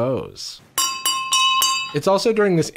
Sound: silverware clangs on crystal glass

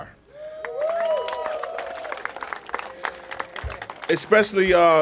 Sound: cheers and applause

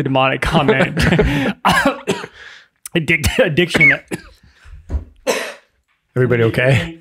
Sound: laughing; coughing

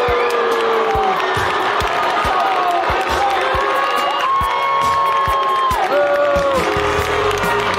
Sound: crowd booing

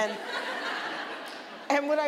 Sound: audience laughing

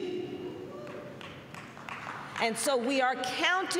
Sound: applause

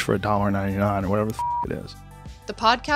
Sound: beep

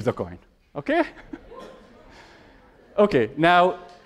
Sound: laughter

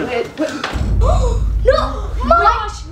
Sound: gasping

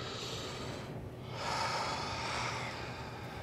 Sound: sighs

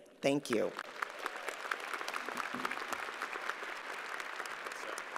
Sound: crowd applauds

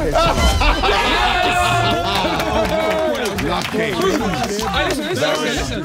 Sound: everyone cheering

